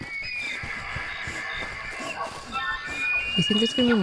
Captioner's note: wendigo sounds continue